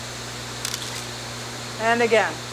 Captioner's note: shutter clicks